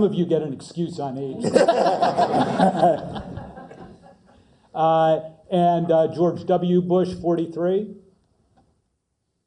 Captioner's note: laugh